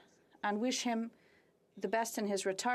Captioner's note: speaking French